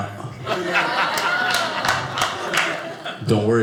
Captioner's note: audience laughing